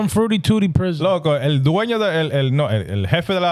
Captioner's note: speaking In Foreign Language